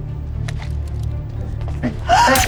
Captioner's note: woman gasps; gunshots